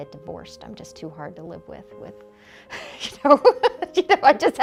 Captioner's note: laughter